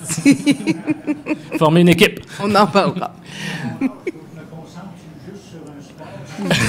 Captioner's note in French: rires